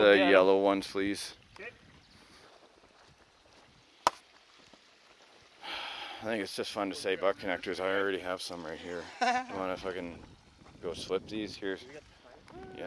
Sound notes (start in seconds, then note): 5.6 sighs; 9.0 laughs